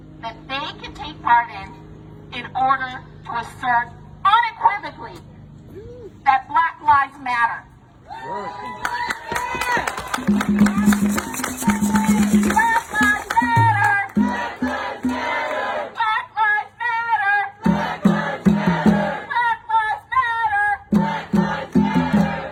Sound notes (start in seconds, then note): 8.1 audience cheering; 8.6 audience applauding; 10.1 audience drumming rhythmically